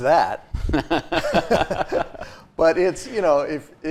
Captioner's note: both laughing